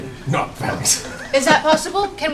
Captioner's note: laughter